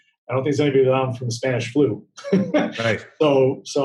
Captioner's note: laughing